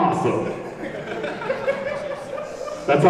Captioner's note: everyone laughs